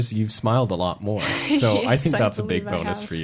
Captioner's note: laughter